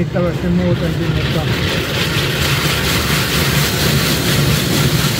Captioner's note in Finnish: Pesun ääniä